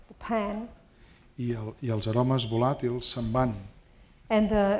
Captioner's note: speaking spanish